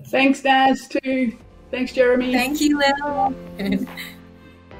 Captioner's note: laughter